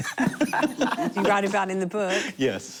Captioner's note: laughter